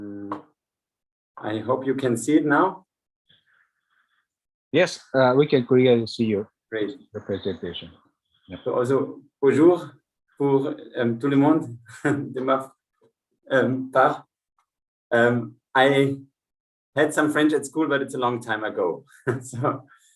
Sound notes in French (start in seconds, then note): 11.2 french